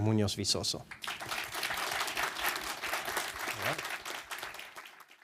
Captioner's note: audience applauding